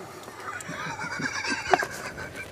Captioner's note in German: Er lacht